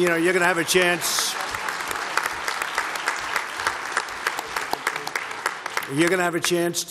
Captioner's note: applause